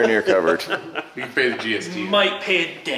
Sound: laughs

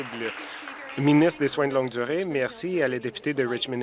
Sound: applause

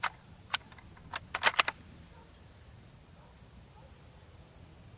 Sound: bolt sliding

